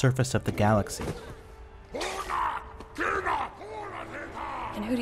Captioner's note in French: beuglement énervé